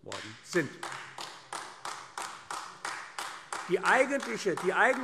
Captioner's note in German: Beifall AfD